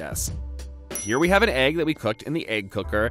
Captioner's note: dings